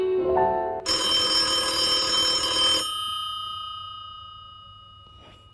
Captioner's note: phone ringing